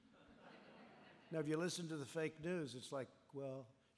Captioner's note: laughter